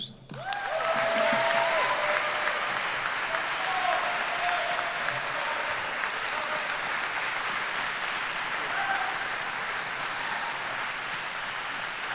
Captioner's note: applause & Cheers